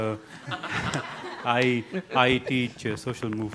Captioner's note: audience laughing